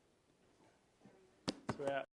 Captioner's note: hands slapping